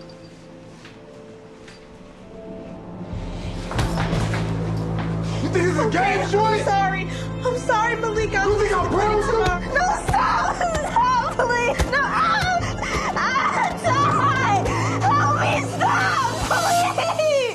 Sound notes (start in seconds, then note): 13.1 screams